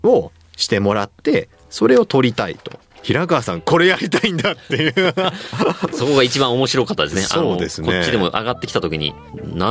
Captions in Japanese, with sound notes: をしてもらってそれを取りたいと平川さん、これやりたいんだっていう。 [笑い] そこが1 番面白かったですね。あの、こっちでも上がってきた時になんとってなったです。